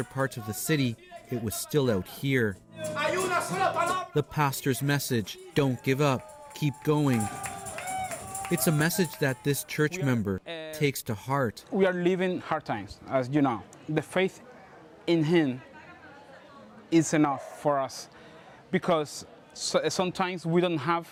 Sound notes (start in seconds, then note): 6.1 speaking alternate language; 10.3 applause